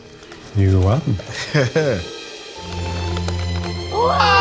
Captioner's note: laughs; triumphant music